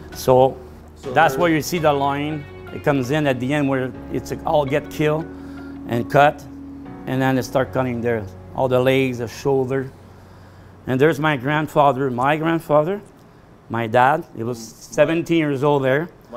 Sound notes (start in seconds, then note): none